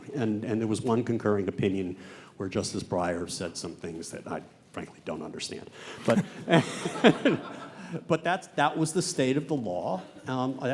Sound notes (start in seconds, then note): 6.0 laughs